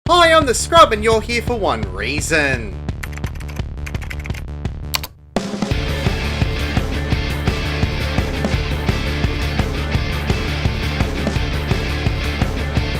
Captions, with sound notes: Hi, I’m The Scrub. And you’re here for one reason. [typing]